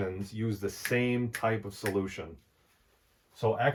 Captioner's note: fingers snapping